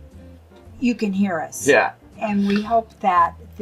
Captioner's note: laughs